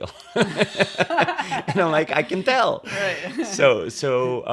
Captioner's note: laughter